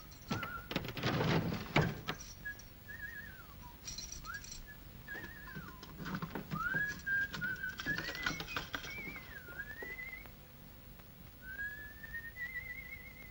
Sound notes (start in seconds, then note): 0.3 desk clatters open; 2.6 whistles; 5.2 little door unlocks; 7.4 keys clatter; 9.2 whistles